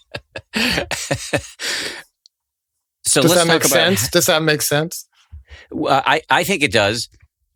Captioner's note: laughing